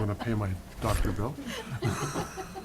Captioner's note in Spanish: risas